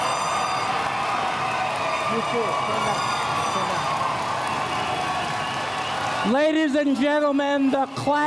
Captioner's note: cheers and Applause